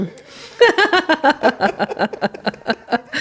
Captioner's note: laughter